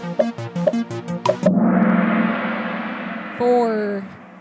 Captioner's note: gong sound